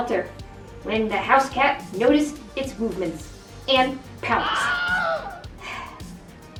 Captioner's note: auggh!